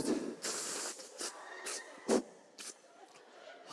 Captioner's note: inhaling